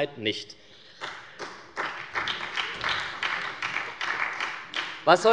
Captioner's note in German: Beifall bei der SPD